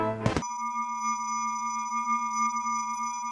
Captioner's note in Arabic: رنين عالي